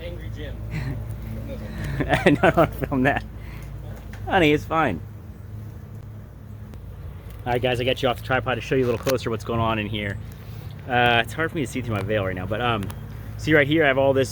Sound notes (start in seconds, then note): 0.7 laughing; 5.8 bees buzzing